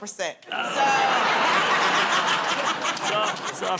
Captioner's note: laughter